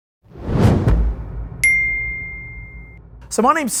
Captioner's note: logo whooshing